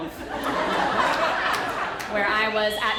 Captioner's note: audience laughter